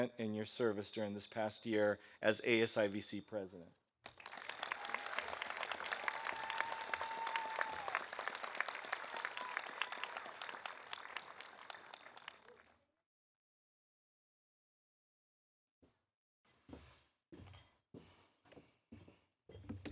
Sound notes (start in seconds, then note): 4.1 audience applauding; 4.3 audience cheering